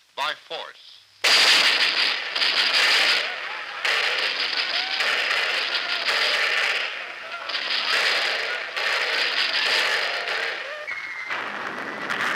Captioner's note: gunshots and explosions, sounds of chaos